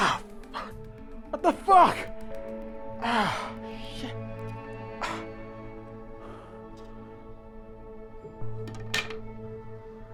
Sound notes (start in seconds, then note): 4.5 thoughtful music; 8.6 clattering